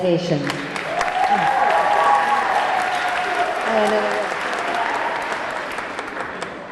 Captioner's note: audience clapping; audience cheering